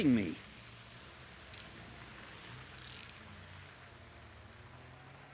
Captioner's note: handcuffs tightening